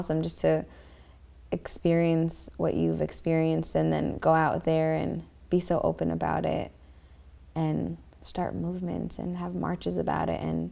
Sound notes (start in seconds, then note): none